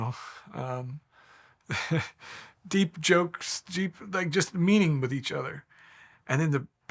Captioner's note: laughing